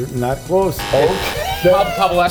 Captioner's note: buzzer blaring; laughing